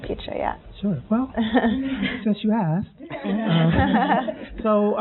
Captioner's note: laughing